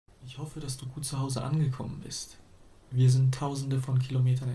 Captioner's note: man speaking foreign language